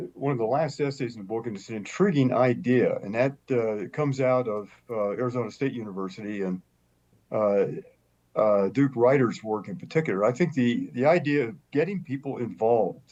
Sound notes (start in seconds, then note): none